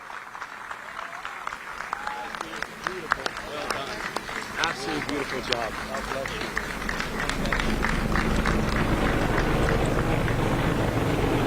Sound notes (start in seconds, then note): 2.1 applause